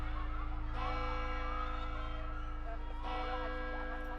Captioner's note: church bells